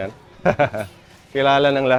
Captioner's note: laughs